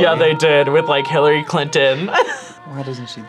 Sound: laughs

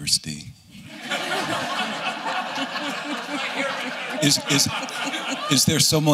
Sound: laughter

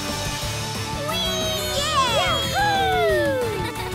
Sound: cheering

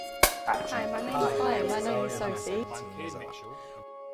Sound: multiple voices

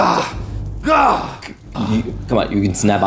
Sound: guard hyperventilates profusely and roars

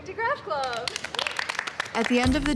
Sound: applause

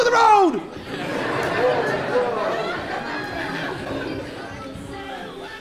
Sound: attendees laughing

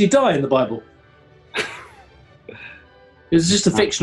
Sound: chuckles

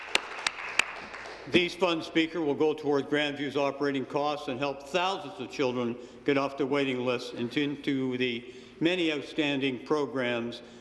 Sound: applause

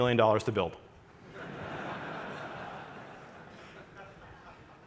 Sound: audience laughing

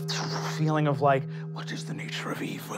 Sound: gasps; wooshing

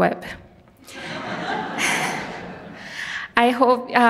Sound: audience laughs

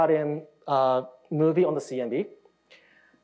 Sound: none

